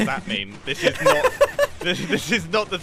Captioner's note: giggling intensifies